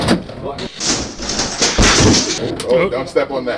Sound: crashing

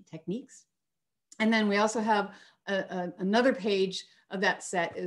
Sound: none

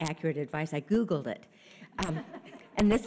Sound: audience chuckles

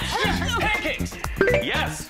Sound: bell chimes

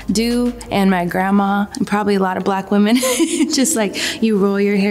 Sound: chuckles

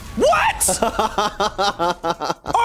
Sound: laughs

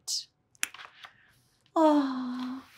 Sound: book page turns

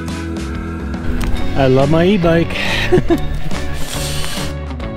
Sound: laughing

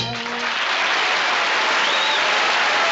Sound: applause, whistling

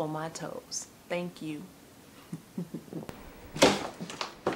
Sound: laughing

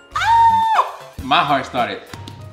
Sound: hand thumping chest

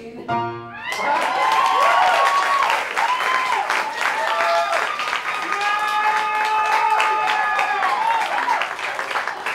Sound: applause

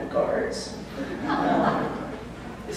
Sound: laughter

